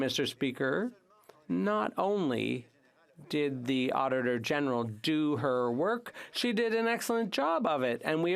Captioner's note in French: voix de l'interprète